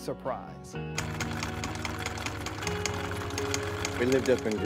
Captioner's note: machine whirring